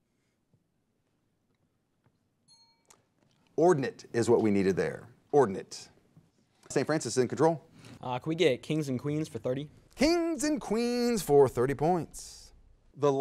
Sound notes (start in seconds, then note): 2.4 bell rings